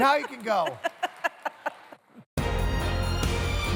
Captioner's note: laughs; upbeat music